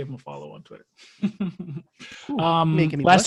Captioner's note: laughs